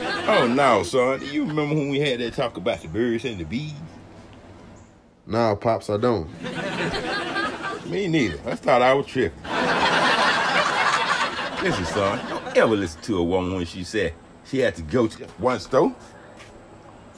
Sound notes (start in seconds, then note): 9.4 laughs